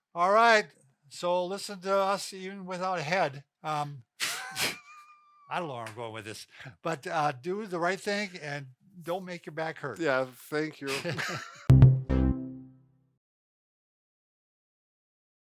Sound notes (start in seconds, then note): 4.2 both laughing; 11.7 musical flourish